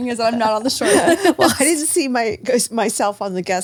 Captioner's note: laughs